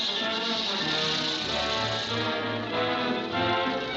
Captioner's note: flames sizzling